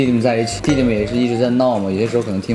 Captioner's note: eating